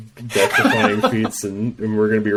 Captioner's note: laughs